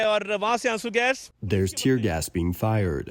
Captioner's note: through translator